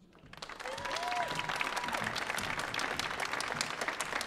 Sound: audience applauding

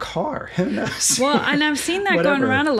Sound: laughs

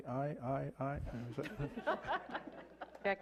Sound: laughter

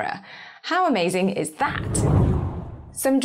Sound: screen whooshes

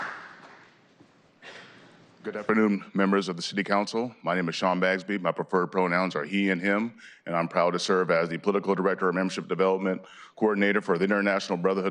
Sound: applause

